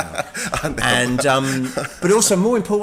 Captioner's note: laughing